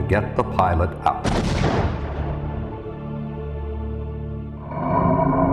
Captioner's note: seat rocket exploding